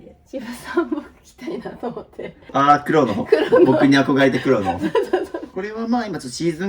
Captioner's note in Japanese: 笑い